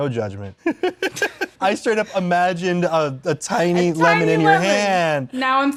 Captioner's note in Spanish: risas